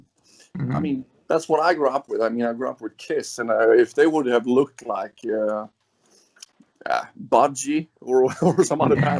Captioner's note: laughs